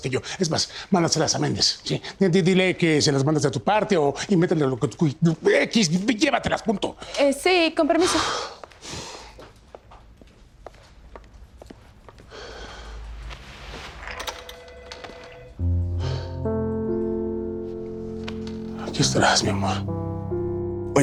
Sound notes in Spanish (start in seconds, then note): 12.3 suspiro